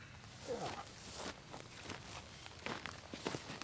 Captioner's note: grunts